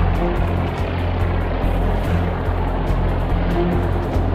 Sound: airplane engines roar

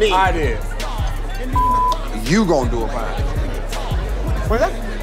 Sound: beep

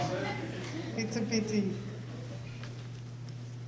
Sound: audience laughter; speaks in French

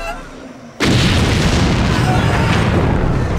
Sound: crying; explosion

